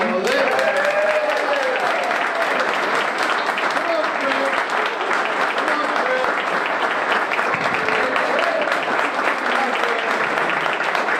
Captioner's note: applause